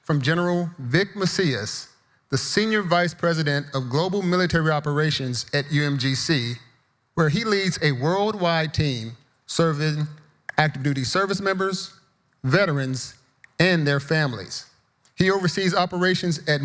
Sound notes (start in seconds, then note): none